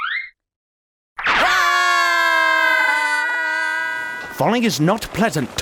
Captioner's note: screaming